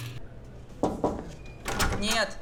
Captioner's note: knocks on door